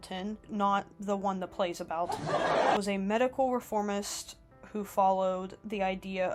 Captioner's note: laugh track